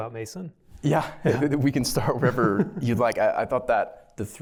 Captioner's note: laughter